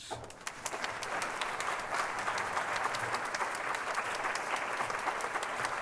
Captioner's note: applause